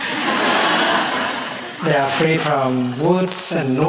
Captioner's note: laughter